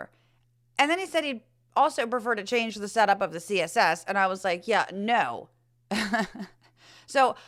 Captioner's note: laugh